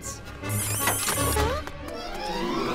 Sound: kissing sounds

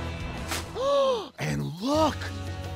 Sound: gasps

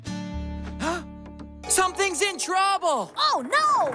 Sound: guitar; gasp!

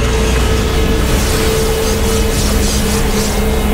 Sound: whooshing

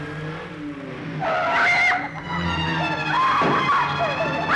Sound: screaming

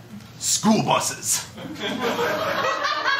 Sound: laughter

